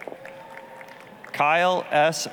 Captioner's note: applause